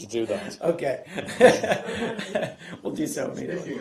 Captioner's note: laughter